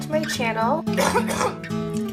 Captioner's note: very gnarly cough